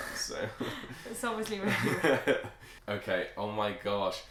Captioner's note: laughing